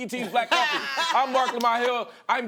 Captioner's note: laughter